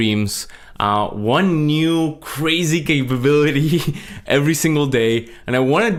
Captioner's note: laughs